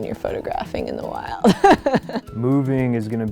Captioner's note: laughs